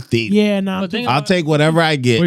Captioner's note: speaking Spanish